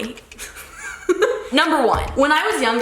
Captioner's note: laughs